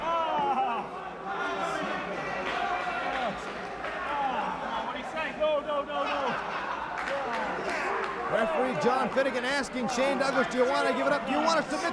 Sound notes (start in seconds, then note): 1.4 crowd chatter; 6.8 crowd chatter